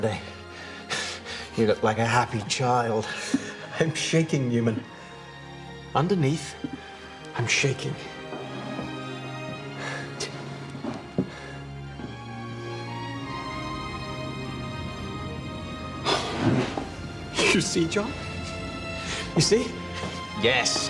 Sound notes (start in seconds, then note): 0.2 <i> chuckling</i>; 16.0 <i> gasps</i>